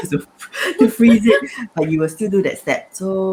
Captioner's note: laughter